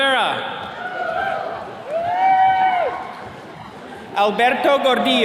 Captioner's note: attendees cheering